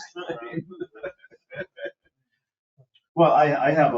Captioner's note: laughs